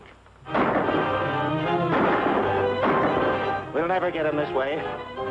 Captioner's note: gunshots